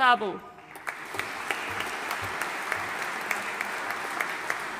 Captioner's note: audience applauding